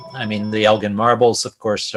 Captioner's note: phone ringing